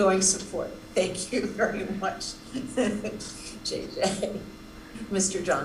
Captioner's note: laughing